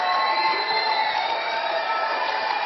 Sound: crowd cheering

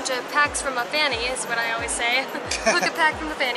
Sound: laughing

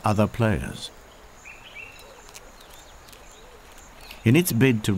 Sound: birds chirping

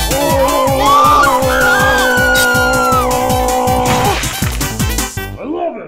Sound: screaming

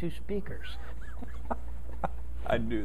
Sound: laughing

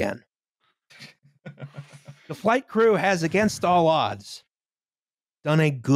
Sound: laughs

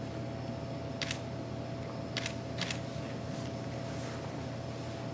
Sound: camera shutter clicking

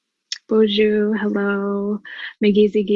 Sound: speaking foreign language

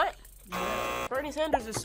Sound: buzzer; buzzer rings

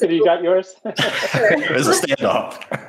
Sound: laughter

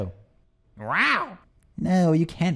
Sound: squawks

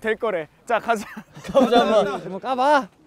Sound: hahaha

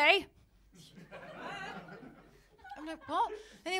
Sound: laughter

